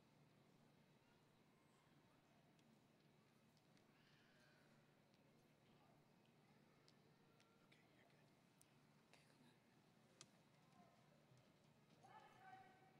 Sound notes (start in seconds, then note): none